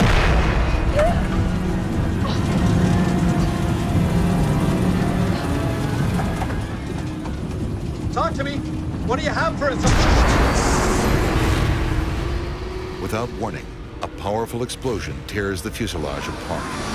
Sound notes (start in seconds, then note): 0.1 passenger gasps; 1.4 engine pops; 3.5 gentle dramatic music; 9.7 explosion blasts